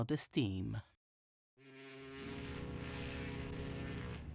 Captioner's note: ship's horn blasts